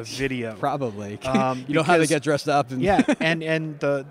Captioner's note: laughs